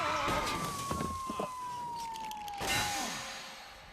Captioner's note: tires screech; steam whistles